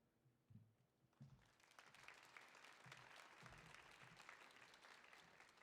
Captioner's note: audience applauding